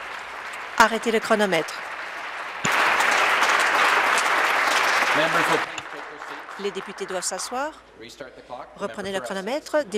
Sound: applause

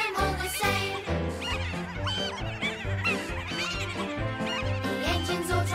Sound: trucks laughing

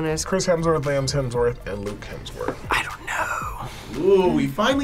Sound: whispers

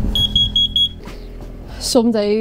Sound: beeping

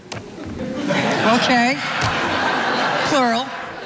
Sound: audience laughing

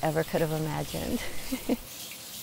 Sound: chuckle

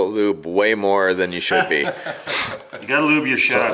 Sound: laughs

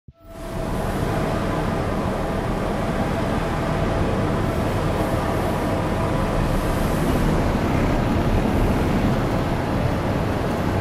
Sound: sound of factory

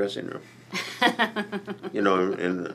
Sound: laughs

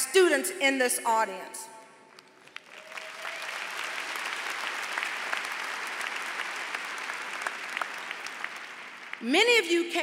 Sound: applause

